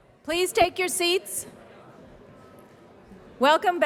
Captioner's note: chatter